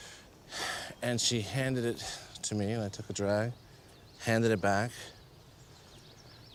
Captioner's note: sighs